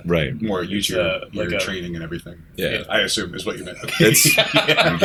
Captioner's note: laughter